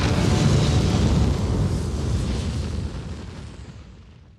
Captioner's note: fire crackling